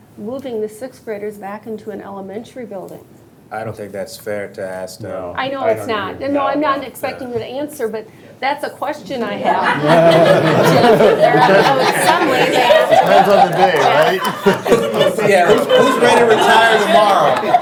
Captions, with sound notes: the 6th graders back into an elementary building? - I don't think that's fair to ask that. - I know it's not. No, I'm not expecting you to answer, but that's a question I have. (all laughing) - Who's ready to retire tomorrow?